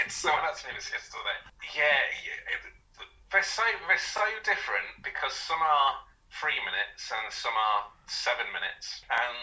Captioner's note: laughter